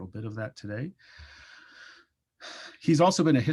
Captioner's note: exhales; inhales